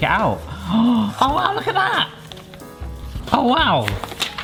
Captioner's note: gasps